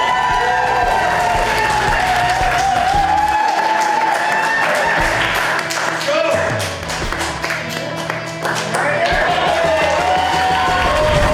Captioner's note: crowd cheering and applause